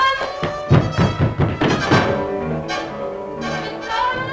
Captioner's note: knocking